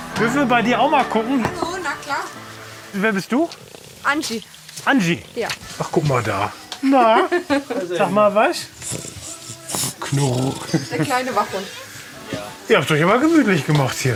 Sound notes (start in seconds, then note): 9.3 laughs